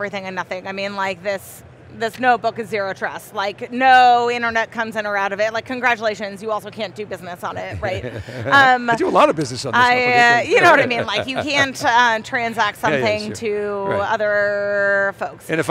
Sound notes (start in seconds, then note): 7.5 host laughs